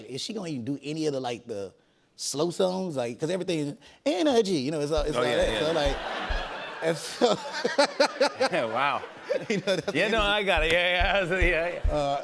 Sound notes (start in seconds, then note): 5.2 laughter